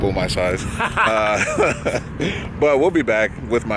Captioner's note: laughs